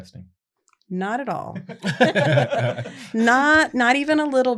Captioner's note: laughter